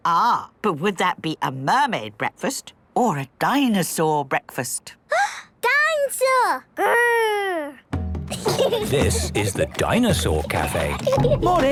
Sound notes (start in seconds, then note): 5.4 gasps; 8.3 children giggling